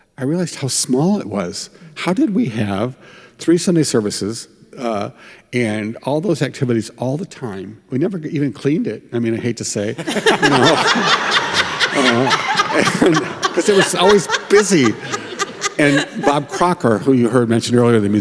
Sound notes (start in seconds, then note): 10.0 group laughs